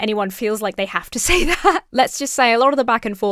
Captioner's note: chuckles